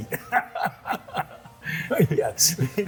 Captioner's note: laughs